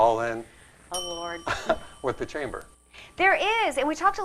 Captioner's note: ding